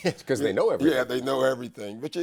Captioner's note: laughs